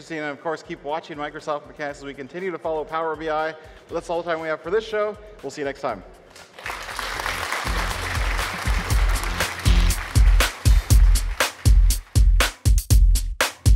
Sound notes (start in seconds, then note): 6.3 applause; 9.9 enthusiastic techno music